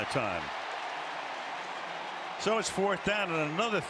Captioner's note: cheering